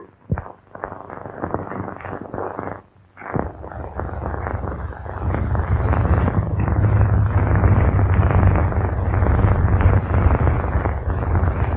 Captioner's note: pounding